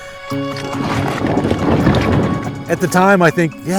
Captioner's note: boat being drug ashore